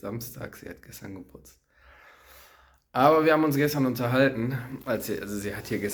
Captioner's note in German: seufzt